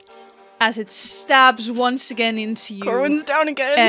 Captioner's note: sound of impact on flesh